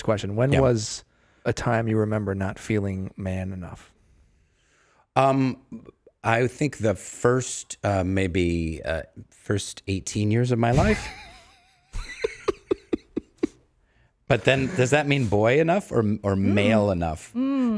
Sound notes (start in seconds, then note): 11.9 everyone chuckling